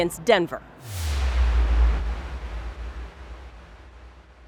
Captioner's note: air whooshing